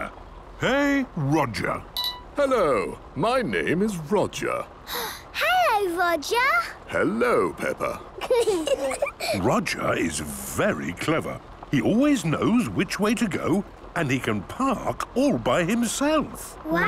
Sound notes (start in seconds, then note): 4.9 gasps; 8.1 children giggling